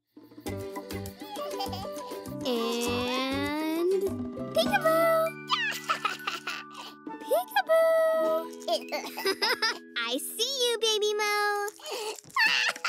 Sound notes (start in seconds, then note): 1.4 baby giggles; 5.5 baby laughter; 12.6 laughter